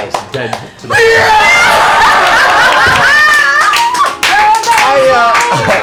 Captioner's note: cheering